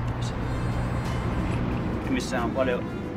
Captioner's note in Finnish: kaupungin liikenteen ääniä